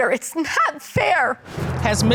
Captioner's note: sobbing